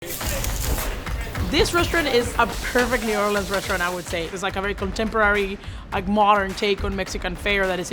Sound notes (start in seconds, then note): 0.3 intense percussive music; 1.4 meat sizzling